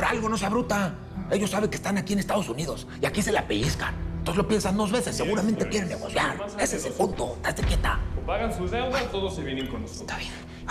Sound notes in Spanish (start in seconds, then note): none